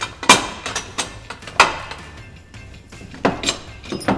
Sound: metal clanging

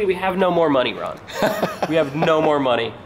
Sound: laughs

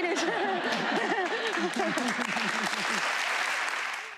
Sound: laughter; applause

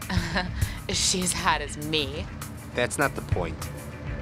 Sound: giggles

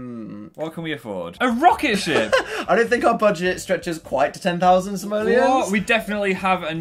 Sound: laughs

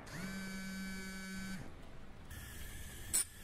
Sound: phone buzzes

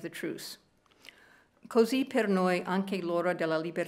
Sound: speaking italian

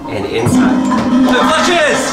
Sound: toilet flushing

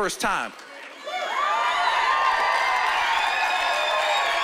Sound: cheering and applause

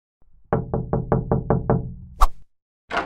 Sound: knock Knock! Knock!

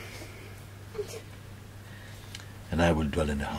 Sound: sobbing sounds in Sangha

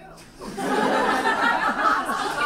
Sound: audience laughs

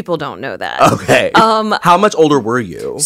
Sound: laugh

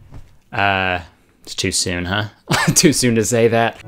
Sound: laughing

